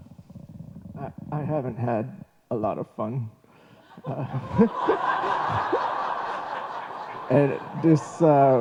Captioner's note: laughter